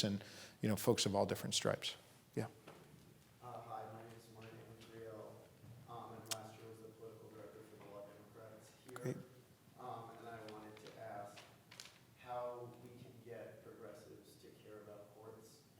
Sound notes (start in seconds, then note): 3.8 voice muffled